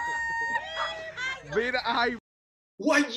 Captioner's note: crowd cheering; speaks in Spanish